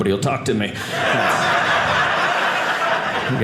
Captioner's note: audience laughing